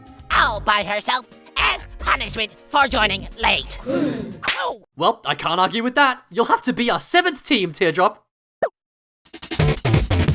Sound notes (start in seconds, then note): 3.8 crowd gasp; 4.3 slap